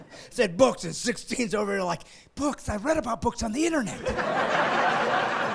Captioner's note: laughing